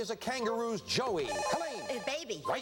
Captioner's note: buzzer